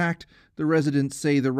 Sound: speaking Foreign Language

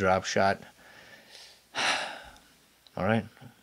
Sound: breathes heavily

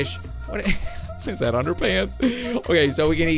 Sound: chuckles

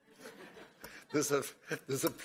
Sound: laughing

